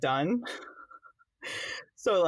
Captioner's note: laughs